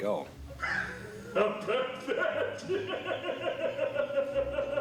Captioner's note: laughing evilly